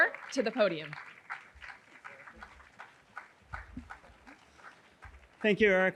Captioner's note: audience applauding